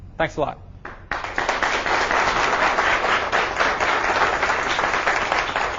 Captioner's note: audience applauds